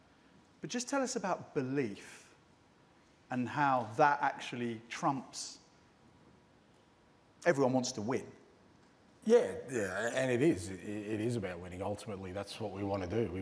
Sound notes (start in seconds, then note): none